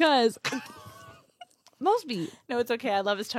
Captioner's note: laughs